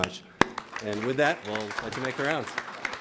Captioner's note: everyone applauds